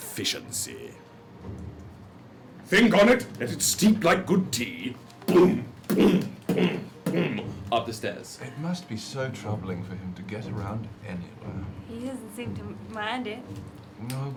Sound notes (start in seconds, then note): 5.2 heavy footsteps